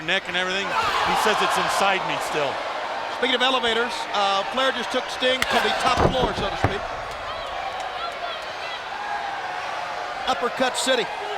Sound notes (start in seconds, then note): 7.5 crowd cheering